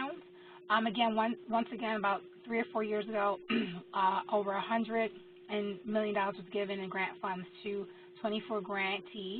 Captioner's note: cough